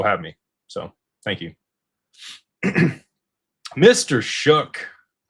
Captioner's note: clears throat